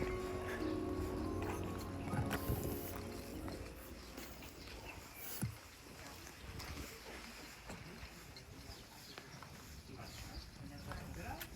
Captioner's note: soft music; speaking in foreign language